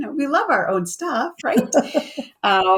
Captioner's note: laughs